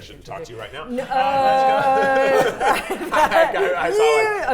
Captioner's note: players laughing